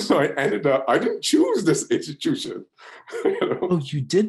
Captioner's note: laughs